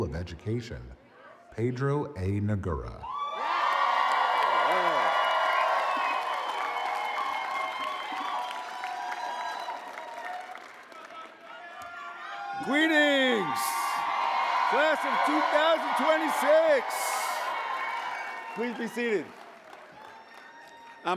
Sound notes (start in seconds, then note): 6.6 applause